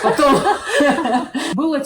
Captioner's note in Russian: Многозначительный смех